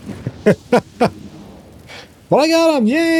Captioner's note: laughs